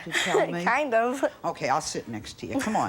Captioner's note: chuckles